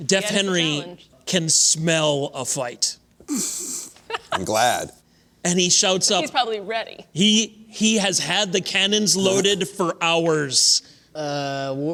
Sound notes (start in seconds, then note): 4.0 laughter